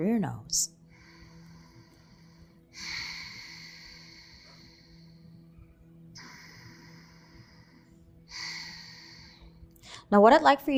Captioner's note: inhaling and exhaling